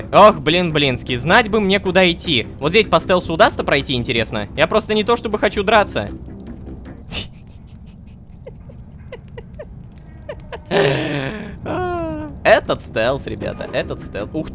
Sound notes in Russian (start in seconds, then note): 7.1 Кхи-кх-кхк-х; 8.1 Звук умирающей чайки